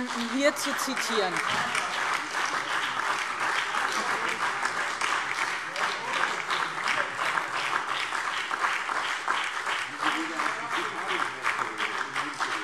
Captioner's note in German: Beifall BÜNDNIS 90/DIE GRÜNEN, CDU und SPD - Anhaltende Zurufe AfD